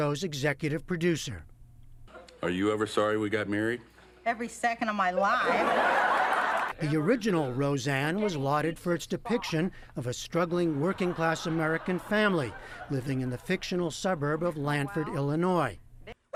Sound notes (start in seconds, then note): 5.3 laughter